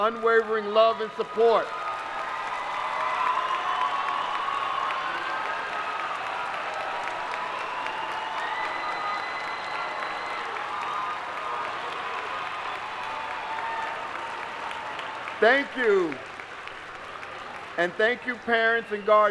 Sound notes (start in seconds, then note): 5.7 applause